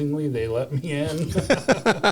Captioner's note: laughter